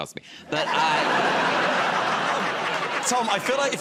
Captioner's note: laughter